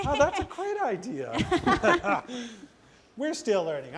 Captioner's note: laughs